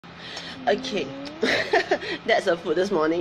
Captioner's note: laughs